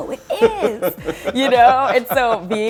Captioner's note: laughs